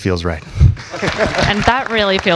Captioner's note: audience applauds